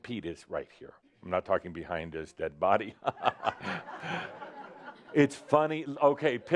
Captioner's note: Adamus chuckles, some giggles in audience